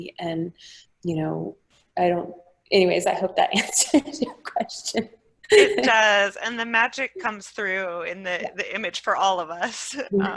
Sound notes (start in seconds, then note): 5.5 laughing